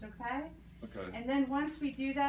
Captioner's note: wrapper crinkling